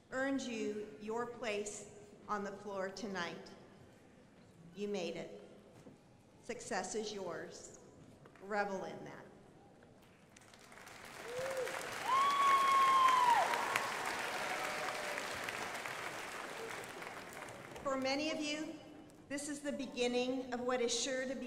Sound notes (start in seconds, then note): 10.3 crowd applauding